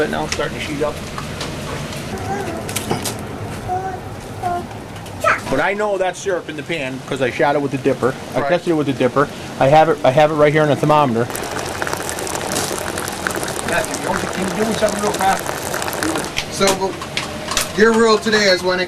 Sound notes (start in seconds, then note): 2.5 fire crackling; 4.2 baby fussing; 10.8 liquid pouring